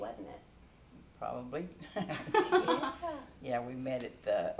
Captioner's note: chuckles